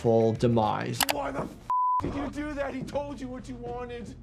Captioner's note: beep